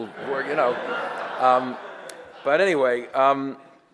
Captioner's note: audience laughter